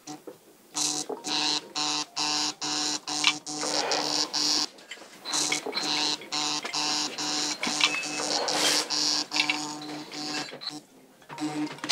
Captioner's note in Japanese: 携帯が鳴る